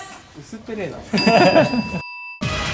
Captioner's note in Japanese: 笑い声